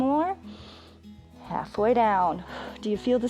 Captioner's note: inhales